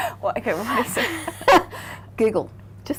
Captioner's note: laughing